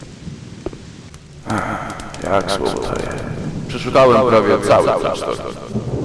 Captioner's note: sigh